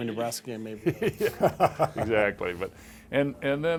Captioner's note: laughing